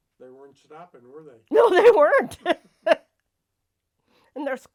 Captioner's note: laughs